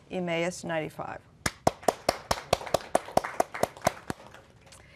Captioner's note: applause